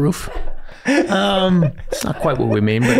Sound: Rob laughing

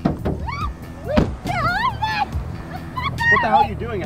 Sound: struggles and Screams

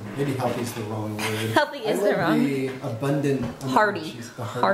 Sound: laughs

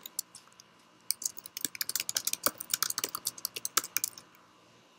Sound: sound of keys typing

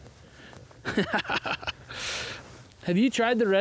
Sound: laughs

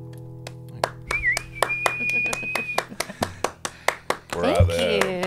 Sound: claps and whistles

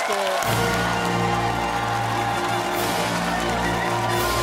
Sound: cheers and applause

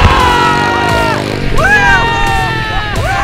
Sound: laughing

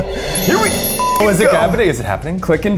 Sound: laughs; beep

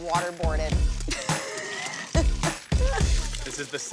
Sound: laughter

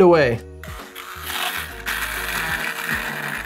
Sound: blender whirring

